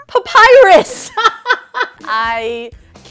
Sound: laughs

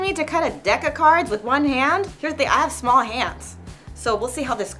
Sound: none

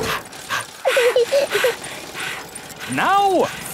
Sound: daddy pig panting; mummy pig panting; chuckles; peppa chuckles

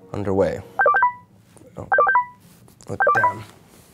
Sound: phone ringing

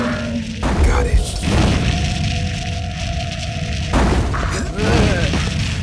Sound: gunshot; fire shooting; gunshot

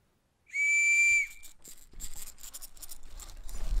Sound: a whistle sounds; sound of rope being pulled

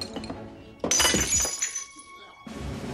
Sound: glass shattering

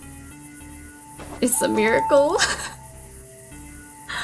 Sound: laughs

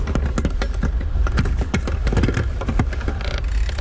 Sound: metals clanking

